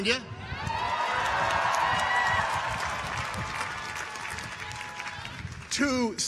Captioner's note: audience cheers; audience applauds